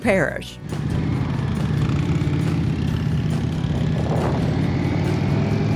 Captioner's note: motorcycle engine roaring